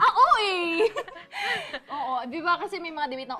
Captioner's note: chuckles